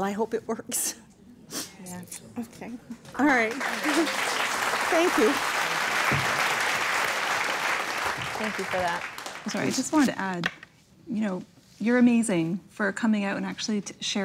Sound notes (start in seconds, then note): 5.2 applause